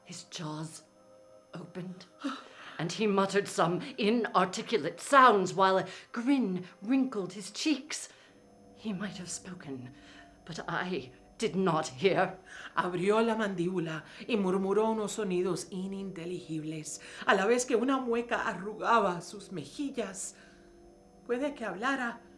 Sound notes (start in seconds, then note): 12.9 speaking in foreign language